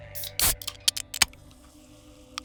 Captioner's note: soda can popping